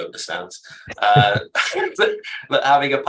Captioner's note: chuckling